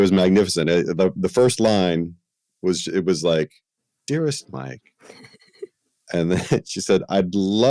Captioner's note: laughter